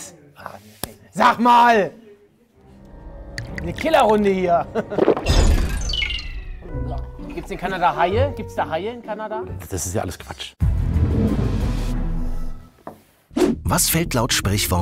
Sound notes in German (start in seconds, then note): 3.0 Gluckern; 4.8 Schlucken, abfallende Klänge; 10.6 Spannungsvolle Klänge